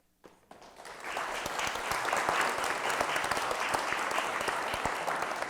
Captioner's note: applause